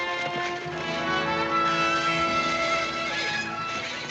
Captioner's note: horses whinnying